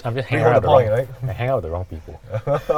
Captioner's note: laughs